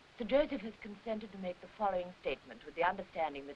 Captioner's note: none